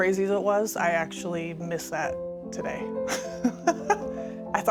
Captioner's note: chuckles